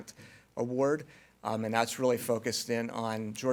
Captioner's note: none